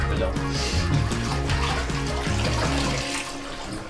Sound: sniffing, water trickling; music fades out

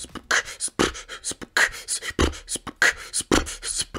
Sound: man beatboxing

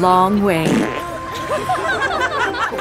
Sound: passes gas; passengers laughing; giggles

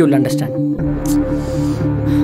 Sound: sighs

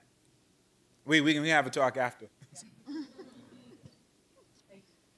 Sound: laughing

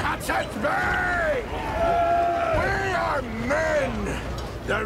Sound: men cheering

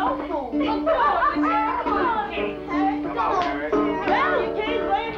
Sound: chatter

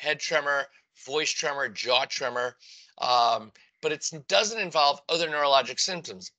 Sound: voice tremor

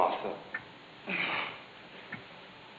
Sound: sigh

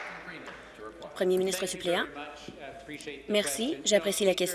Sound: applause

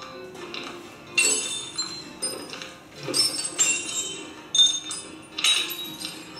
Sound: glass shatters

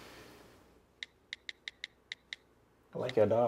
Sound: cellphone keys clicking

